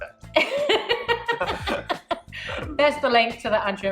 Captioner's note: laughing